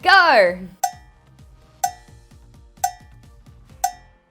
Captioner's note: clock ticking